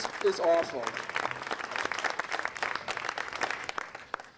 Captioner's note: applause